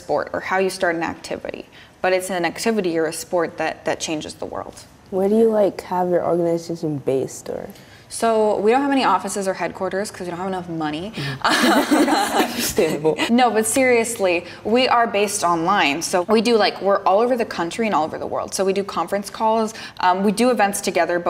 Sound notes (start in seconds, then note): 11.4 laughter